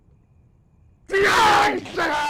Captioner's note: screaming